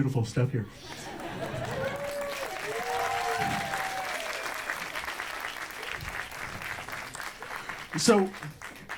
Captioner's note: audience cheers and applauds